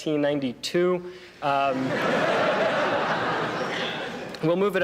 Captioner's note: laughter